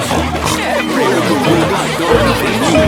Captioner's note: snorts